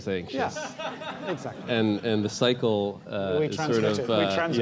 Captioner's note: laugh